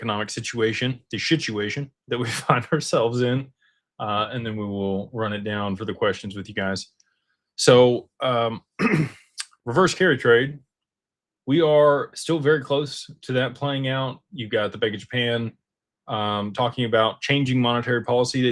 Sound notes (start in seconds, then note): 8.7 clears throat